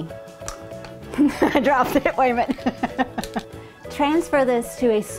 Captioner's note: laughing